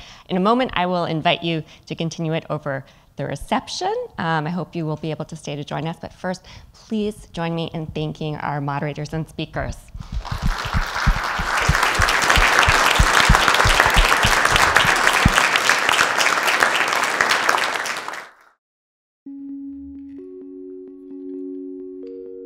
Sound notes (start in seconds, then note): 10.1 audience, moderators, and speakers applauding; 19.3 bright music